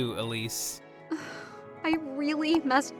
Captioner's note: sighs